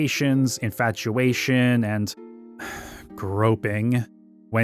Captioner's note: exhales sharply